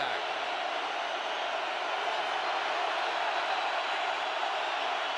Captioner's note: cheering